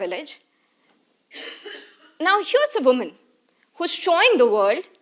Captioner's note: cough